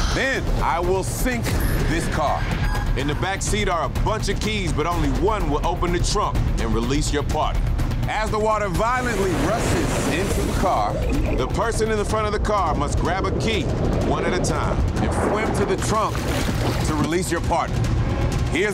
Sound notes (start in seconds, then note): 10.8 dramatic music; 10.8 water rushing